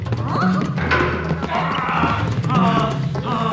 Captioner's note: groaning